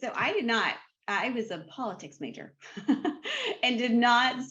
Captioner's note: laughs